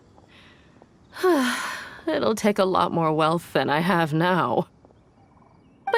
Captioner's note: sigh